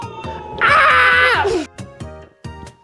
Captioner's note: flying fish mating call